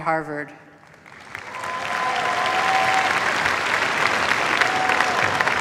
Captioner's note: cheers, applause